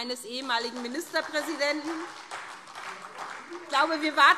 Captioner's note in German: Heiterkeit und Beifall SPD